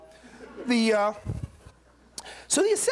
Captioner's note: laughter